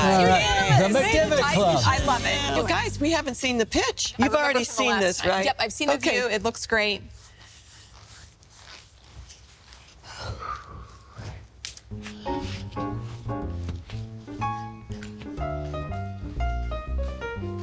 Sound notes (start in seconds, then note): 10.0 sighs; 11.9 gentle piano music